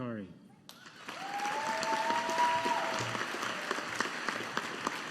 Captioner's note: audience applauding